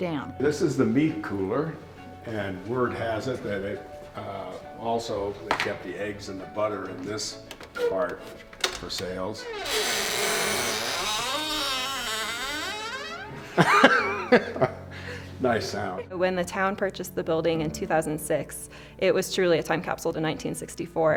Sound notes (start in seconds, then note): 8.6 loud creaking; 13.2 laughs